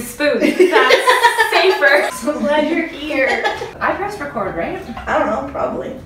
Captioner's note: laughs